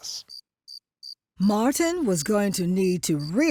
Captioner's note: crickets chirping